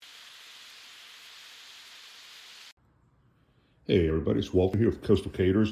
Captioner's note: sizzling